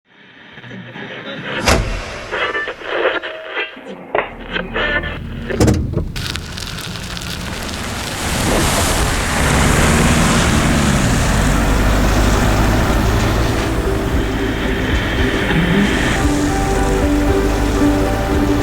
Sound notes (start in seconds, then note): 2.3 radio scanning stations; 4.3 gears switching; 7.5 mud swishing; 9.6 engine revving; 13.7 soft music